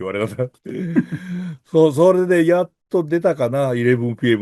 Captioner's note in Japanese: 笑い